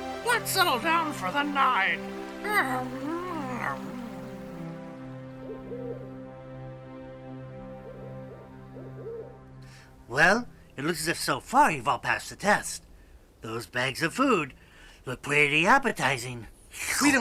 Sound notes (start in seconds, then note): 5.2 ਉੱਲੂ ਹੂਟਿੰਗ